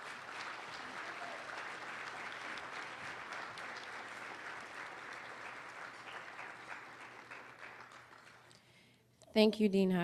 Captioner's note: applause